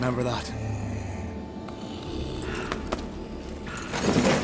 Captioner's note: snoring